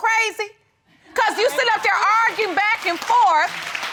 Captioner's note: applause